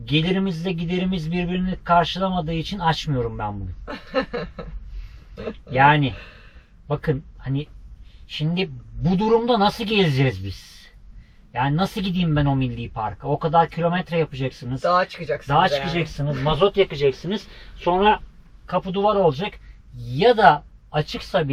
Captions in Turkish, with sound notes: gelirimizle giderimiz birbirini karşılamadığı için açmıyorum ben bunu. [kahkaha] Yani bakın hani şimdi bu durumda nasıl geleceğiz biz? Yani nasıl gideyim ben o milli parka? O kadar kilometre yapacaksınız. Dağa çıkacaksın. Dağa çıkacaksınız. Mazot yakacaksınız. Sonra kapı duvar olacak. Ya da açıksa